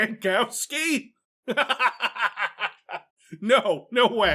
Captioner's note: laughs